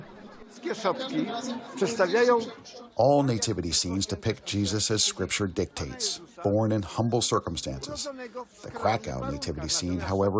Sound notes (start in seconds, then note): 0.0 voice-over; 3.7 through translator